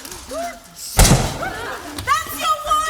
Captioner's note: pistol shot